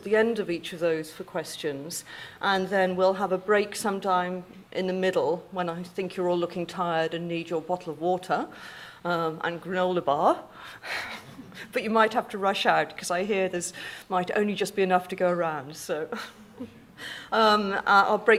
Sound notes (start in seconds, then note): 11.0 chuckles; 17.4 laughs